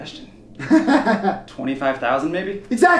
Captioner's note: laughs